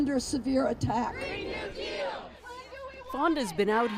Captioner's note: chanting